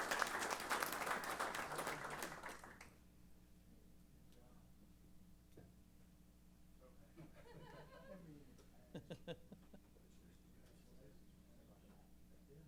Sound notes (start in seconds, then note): 8.8 laughter; 10.0 laughs